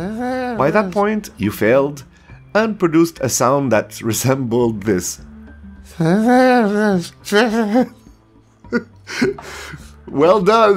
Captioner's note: sound: flabalablubablu